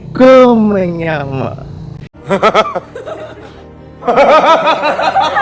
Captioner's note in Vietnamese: tiếng cười